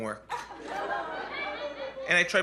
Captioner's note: laughter